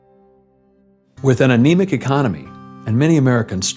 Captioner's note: voice-over